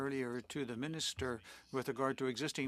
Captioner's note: speaking French